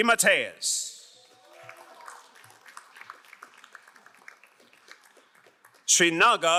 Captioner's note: crowd cheering and applauding